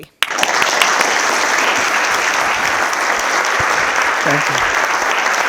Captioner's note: audience applauding